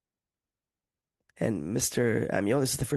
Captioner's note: speaking French